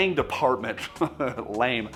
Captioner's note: laughs